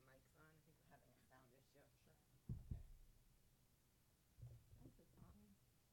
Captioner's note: woman speaking faintly